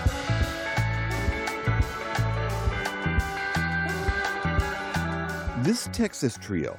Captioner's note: voice-over